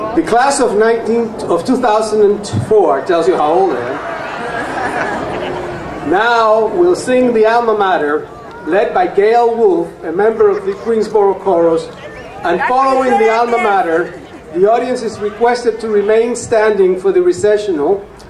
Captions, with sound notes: The class of 19, of 2004, tells you how old I am. (crowd laughing) Now we'll sing the Alma Mater, led by Gale Wolf, a member of the Queensborough chorus, and following the Alma Mater, the audience is requested to remain standing for the recessional,